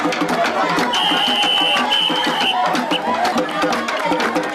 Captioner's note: whistle blowing